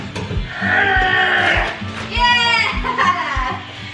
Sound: grunts in exertion; laughing

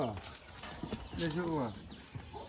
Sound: Arabic

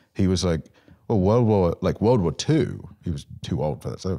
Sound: none

